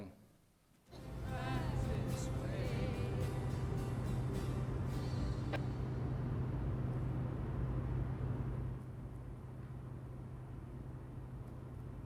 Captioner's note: auto sounds, radio playing